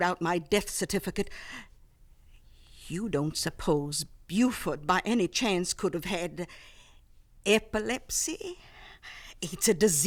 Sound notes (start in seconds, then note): none